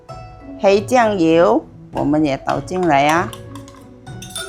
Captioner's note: slip